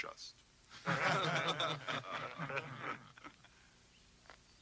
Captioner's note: men laughing